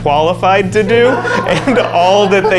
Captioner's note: backstage crew laughs